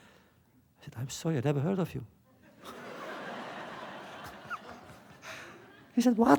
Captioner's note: laughter